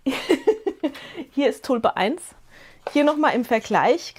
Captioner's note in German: gelächter